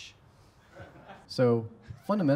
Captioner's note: laughter